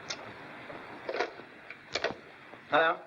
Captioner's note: phone receiver clicks